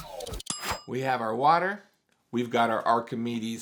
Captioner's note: bell dings